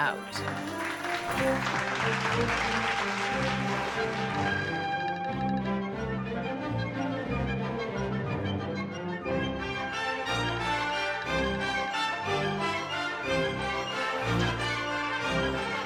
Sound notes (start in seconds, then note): 5.9 audience applauds; 5.9 dramatic music